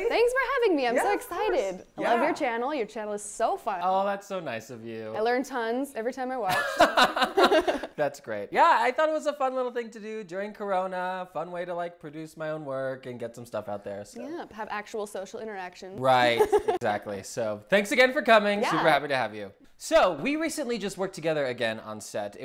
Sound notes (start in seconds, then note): 6.6 laughs; 16.3 laughs